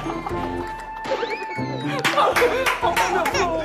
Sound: laughing out so loud

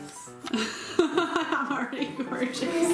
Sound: laughing

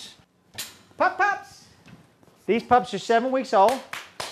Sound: claps

